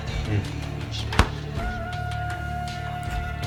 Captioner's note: drawer closing